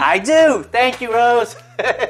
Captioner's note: laughs